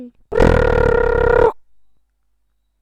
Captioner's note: alarm beeping